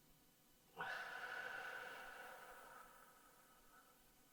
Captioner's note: slow sighing